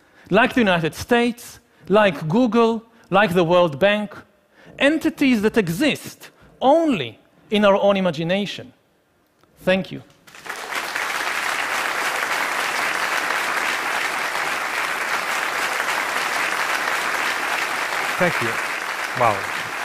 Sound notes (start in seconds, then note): 10.6 applause